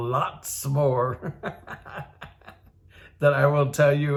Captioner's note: laughs